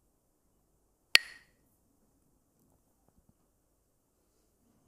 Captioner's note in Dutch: klakt met stokjes